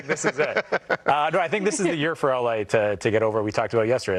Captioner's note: laughter